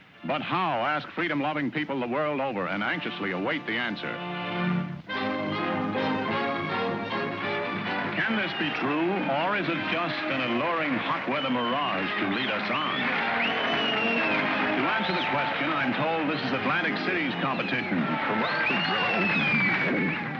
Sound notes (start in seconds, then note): 4.8 dramatic upbeat music; 13.2 whooping & cheering; 18.1 voiceover distorts and cuts out; 20.2 audience boos